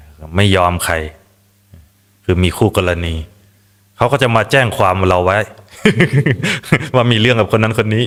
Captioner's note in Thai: เสียงหัวเราะ